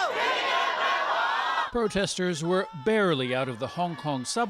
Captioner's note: speaking foreign language